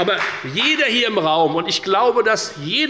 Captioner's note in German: Beifall bei der FDP